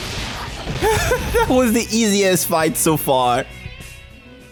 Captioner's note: laugh